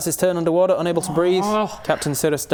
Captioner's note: groans